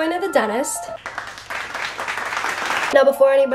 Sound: applause

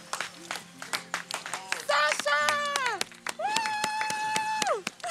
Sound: clapping

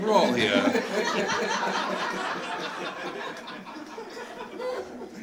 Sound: audience laughing

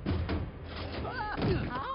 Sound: yelps

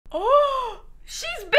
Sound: gasps

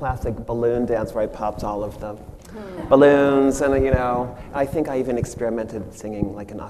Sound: audience laughs

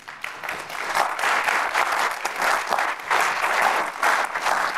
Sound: applause

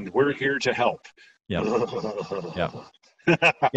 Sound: groaning; laughing

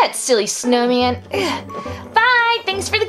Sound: sighs; grunts

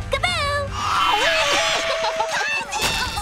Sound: laughing

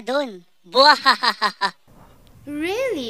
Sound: cockroach laughs

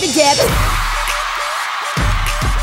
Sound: crowd cheering

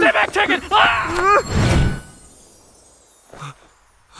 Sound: yells

